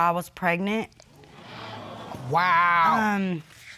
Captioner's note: audience exclaim